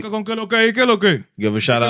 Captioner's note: speaking In Foreign Language